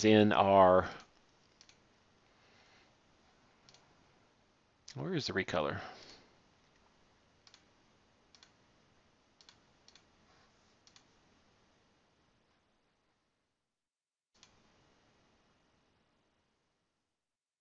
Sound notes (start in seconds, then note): 0.0 click; 1.5 clicking; 7.3 clicking; 9.4 sighs